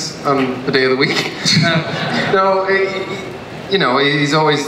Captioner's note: audience laughs